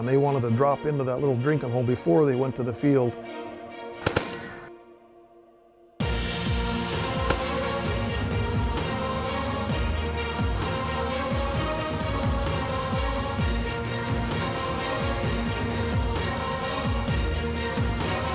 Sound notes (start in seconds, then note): 4.0 gun shots; 7.2 gun shot